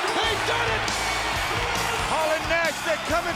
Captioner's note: bell ringing; crowd cheering